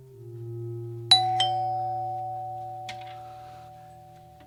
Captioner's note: ding dong